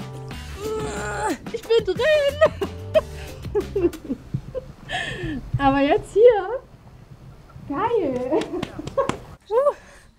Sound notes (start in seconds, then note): 0.5 she moans